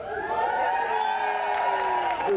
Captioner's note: audience applauding